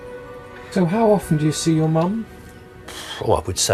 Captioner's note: voiceover